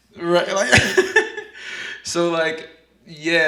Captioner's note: laughs